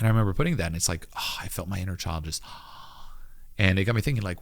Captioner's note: gasps